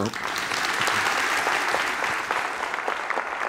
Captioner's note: audience clapping